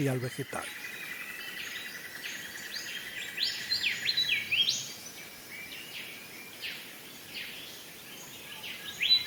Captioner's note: birds chirps